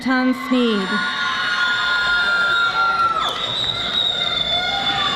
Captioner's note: audience applauding